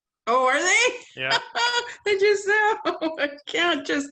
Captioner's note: laughs